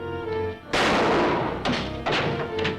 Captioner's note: gunshot